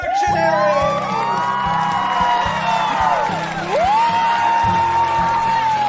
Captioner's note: audience cheering; audience clapping